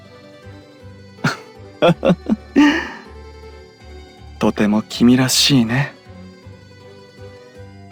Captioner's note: laugh